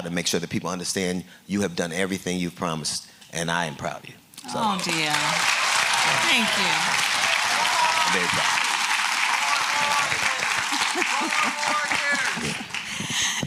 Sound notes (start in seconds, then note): 4.3 applause; 9.2 applause